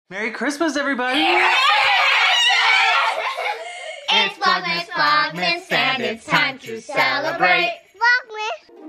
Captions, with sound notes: - Merry Christmas everybody. (screaming) (gentle music)